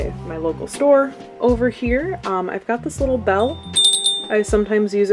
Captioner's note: bell rings